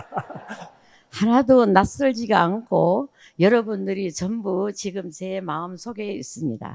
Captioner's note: all laughing; speaking in foreign language